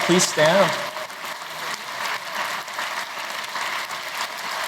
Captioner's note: applause